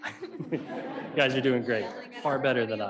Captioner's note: laughing